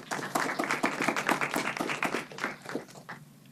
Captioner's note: clapping